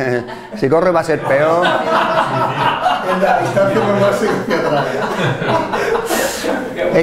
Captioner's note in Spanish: risas